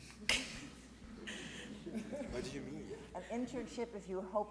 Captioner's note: audience laughs